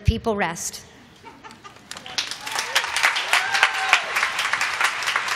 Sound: applause

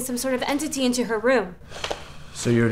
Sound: Zeeland sighs

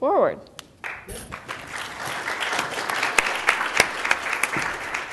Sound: audience applauds

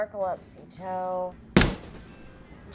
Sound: slamming on the bar

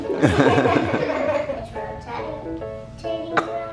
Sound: laughing

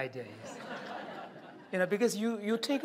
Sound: laughter

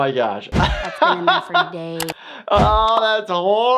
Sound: laughs

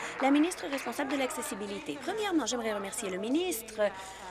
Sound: applause

